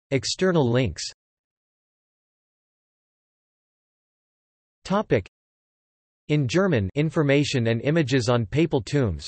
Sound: in German

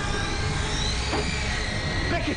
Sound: whirring

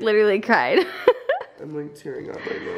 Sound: laughing

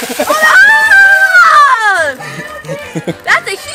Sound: water splashing; kids screaming; dad laughing

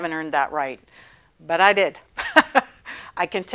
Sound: laughing

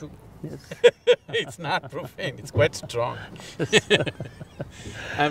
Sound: laughs; both Laugh

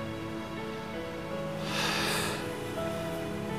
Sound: sighs

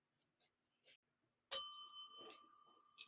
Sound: bell dings

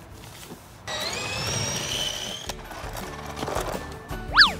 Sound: motor humming

